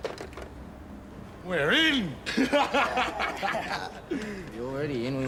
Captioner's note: laughs